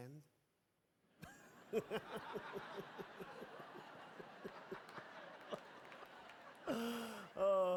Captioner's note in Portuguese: audience laughing; Lola laughing